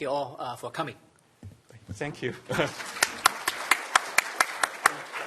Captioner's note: applause